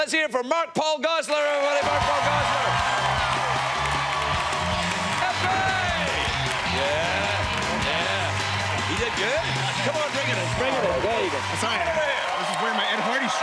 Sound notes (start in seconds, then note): 2.6 cheers and applause